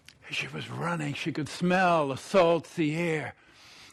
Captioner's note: sniffs